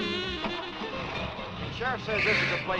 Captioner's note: engine cranks